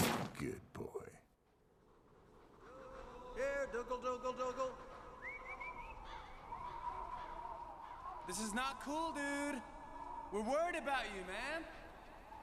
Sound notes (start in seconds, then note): 5.2 Brian whistling